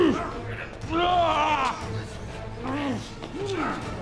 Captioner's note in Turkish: Müzik - Gerilim; Bağırma sesi